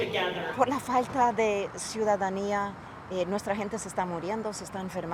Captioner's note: speaking in foreign language